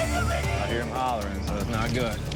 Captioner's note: indistinct screaming